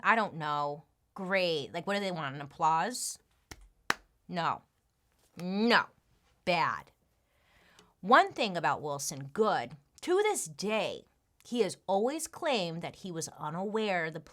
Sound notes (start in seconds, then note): 3.9 claps